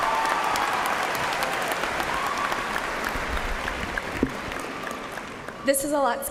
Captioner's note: cheers and applause